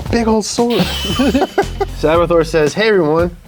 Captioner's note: laughs